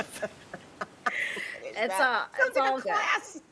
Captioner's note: people laughing